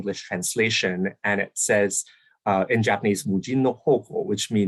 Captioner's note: speaking japanese